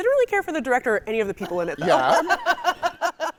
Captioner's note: laughing